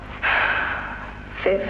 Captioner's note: sigh